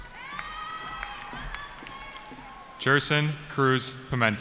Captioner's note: cheering